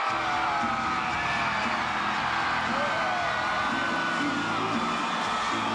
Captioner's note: crowd cheering; upbeat music